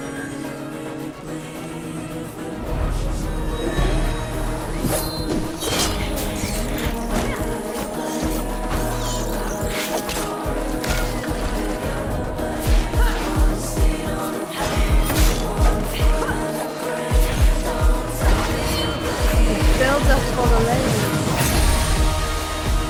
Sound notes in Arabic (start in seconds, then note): 5.3 شفرات خشخشة; 9.9 موسيقى بوب عميقة